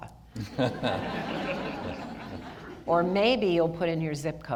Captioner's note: audience laughter